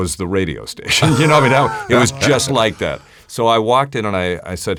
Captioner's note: laughs